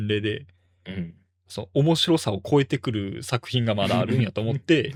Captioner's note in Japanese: 咳払い